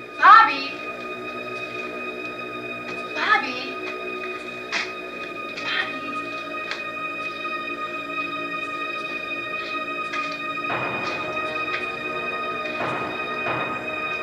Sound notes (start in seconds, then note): 1.5 eerie music; 5.6 whispers; 11.2 music builds